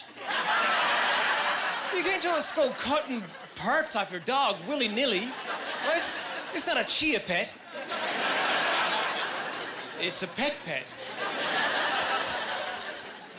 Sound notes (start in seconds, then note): 0.1 laughing; 7.6 laughing